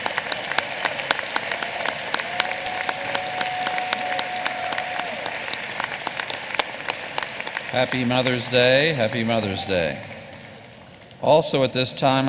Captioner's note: applause